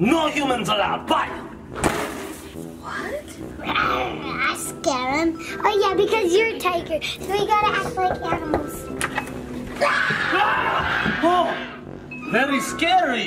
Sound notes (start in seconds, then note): 1.5 door thuds; 3.9 growling; 7.7 knuckles thumping; 8.9 door clicks; 9.9 growling